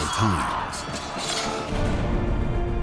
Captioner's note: yelling